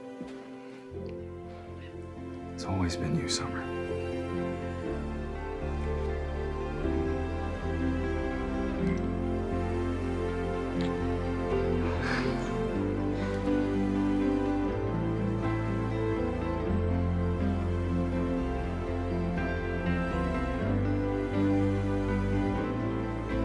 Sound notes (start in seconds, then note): 5.8 gentle music; 11.9 both sighing; 14.4 gentle music; 19.5 gentle music intensifies